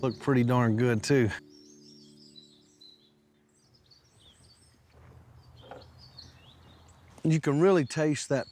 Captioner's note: birds chirping